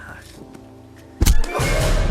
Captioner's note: whack!